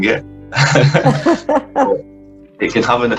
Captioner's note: laughing